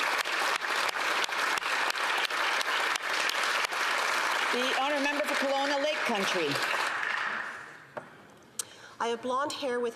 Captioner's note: applause